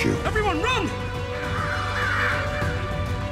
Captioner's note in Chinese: 乌鸦叫